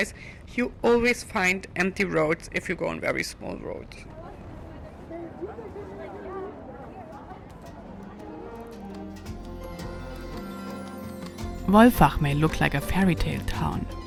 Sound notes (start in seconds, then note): 3.8 people chattering; 7.6 pleasant music